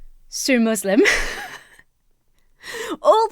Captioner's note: laughs